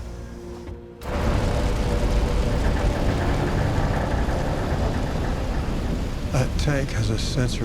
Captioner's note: somber music; crane creaks; fire roaring